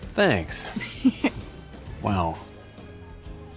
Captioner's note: giggles